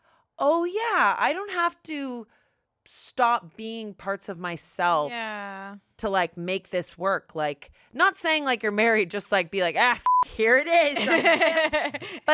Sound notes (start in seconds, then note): 10.0 beep; 10.8 laughs